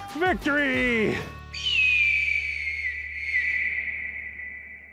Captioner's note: hawk calling